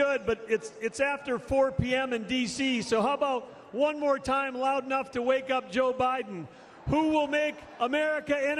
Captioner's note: crowd shouts "trump!"